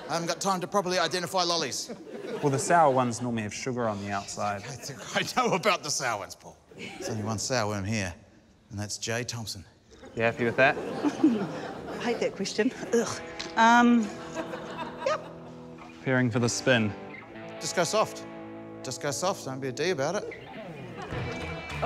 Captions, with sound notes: I haven't got time to properly identify lollies. - Well, the sour ones usually have sugar on the outside. - (SCOFFS) I know about the sour ones, Paul. There's only one sour worm here, and that's J Thomson. - You happy with that? - (CHUCKLES) I hate that question. Eurgh! Um... Yup. - Preparing for the spin. - Just go soft. Just go soft; don't be a 'D' about it.